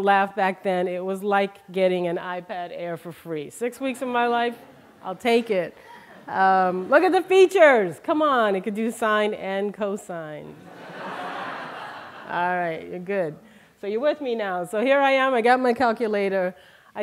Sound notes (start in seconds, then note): 10.6 laughter